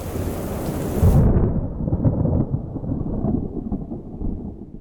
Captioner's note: raindrops pattering; thunder rumbling